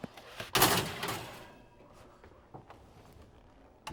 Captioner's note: tray clanging